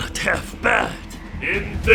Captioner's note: none